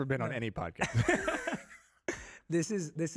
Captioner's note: Jay laughs